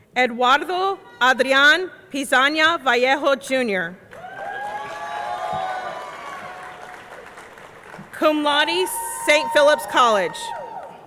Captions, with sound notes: Eduardo Adrian Pizana Vallejo Jr. (audience cheering) (audience clapping) Cum laude, St. Philip College.